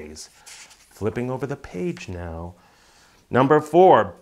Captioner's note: paper rustling